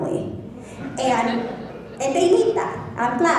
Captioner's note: laughing